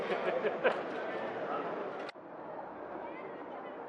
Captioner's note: man laughs